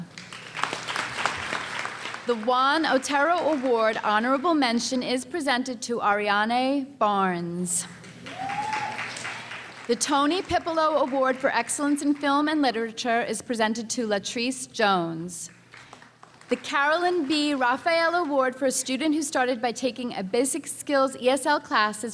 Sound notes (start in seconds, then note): 0.0 applause; 8.2 cheering and applause